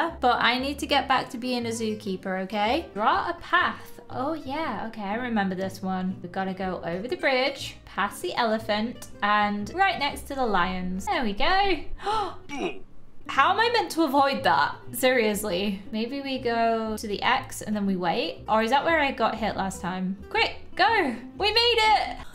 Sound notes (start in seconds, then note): 12.0 exclaims